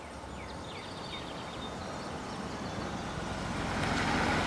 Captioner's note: birds chirping